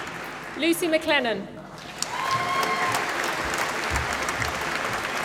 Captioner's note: applause